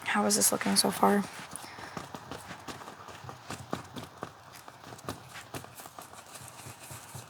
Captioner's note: footsteps